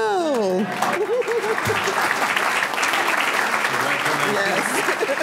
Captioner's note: audience clapping; giggling